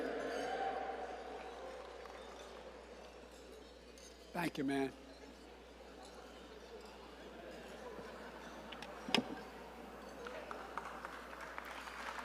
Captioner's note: applause